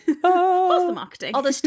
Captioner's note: laughing